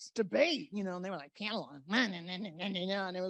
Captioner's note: mocking voice